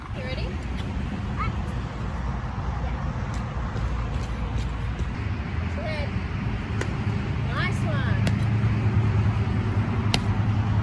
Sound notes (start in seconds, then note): 3.2 quiet, rhythmic thudding of feet on totem tennis base